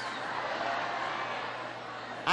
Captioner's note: laughter